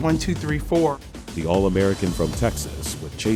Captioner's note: voiceover